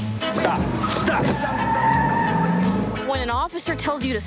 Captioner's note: tires scrcreeching